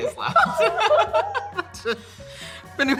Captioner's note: Emma and Joy laughing